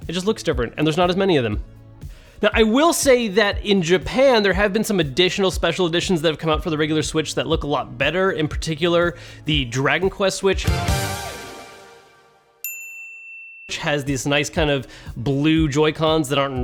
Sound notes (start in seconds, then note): 9.5 bright music; 12.6 ping